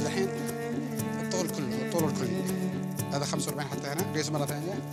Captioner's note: Arabic spoken audio